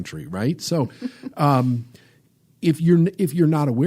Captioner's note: laughs